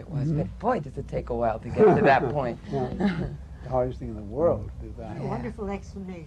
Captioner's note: laughter